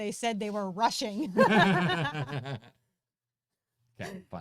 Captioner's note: laughs